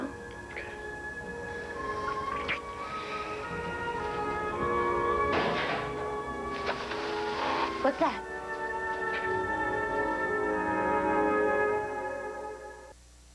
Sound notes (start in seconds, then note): 7.0 banging noise